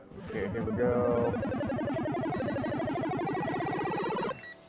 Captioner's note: machine beeping